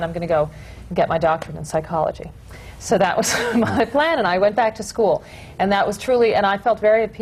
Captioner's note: laughs